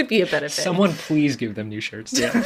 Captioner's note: laughs